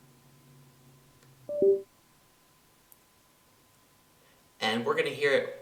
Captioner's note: Windows Sound